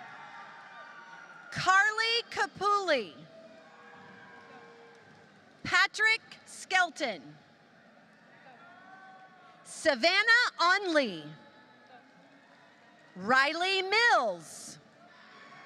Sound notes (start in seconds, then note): 4.0 applause